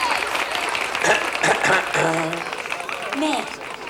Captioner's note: townsfolk applaud; John clears his throat